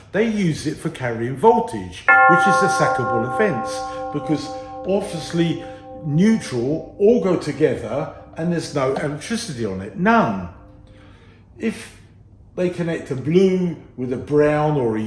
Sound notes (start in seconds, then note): 2.1 bell chimes